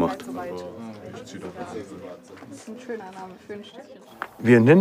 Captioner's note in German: Stimmengewirr